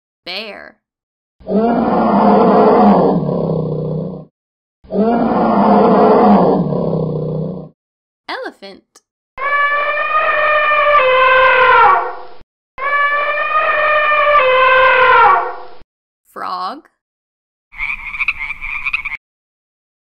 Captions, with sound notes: Bear. (bear roaring) Elephant. (elephant trumpeting) Frog. (frog croaking)